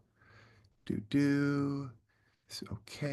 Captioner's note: humming